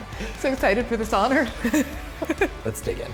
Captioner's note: laughter